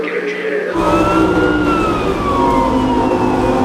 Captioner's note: police siren